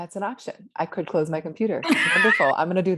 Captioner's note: laughs